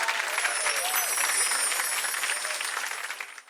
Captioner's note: gently chiming bells